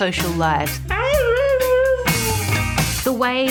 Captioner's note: howls